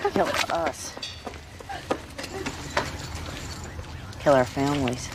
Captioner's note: Sara Jean crying